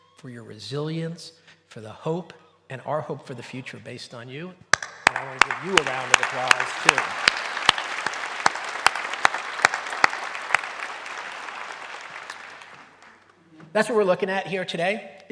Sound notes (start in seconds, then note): 4.7 clapping; 7.2 applause